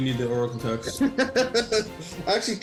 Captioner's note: laughs